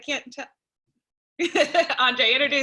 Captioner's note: laughter